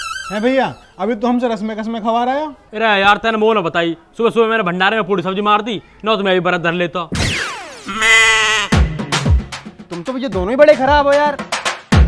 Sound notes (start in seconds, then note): 7.3 funny sounds playing